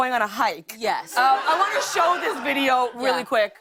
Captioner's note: laughter